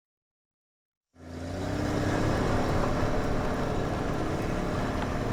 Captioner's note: engine chugs